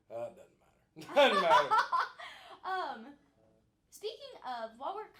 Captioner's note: laughing